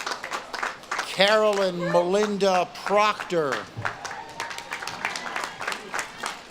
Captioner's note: audience claps and cheers